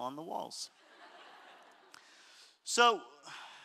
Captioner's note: audience laughter